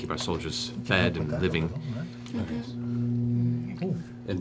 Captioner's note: quietly